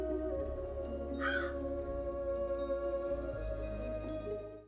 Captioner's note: bird cawing